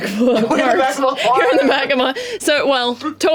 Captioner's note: laughs